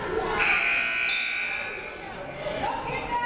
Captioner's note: buzzer blares; whistle blows